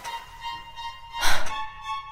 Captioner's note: sigh